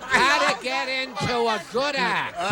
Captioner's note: laughters